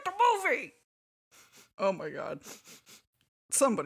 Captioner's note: more sniffing; sniffing